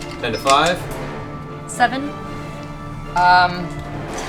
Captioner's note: laughs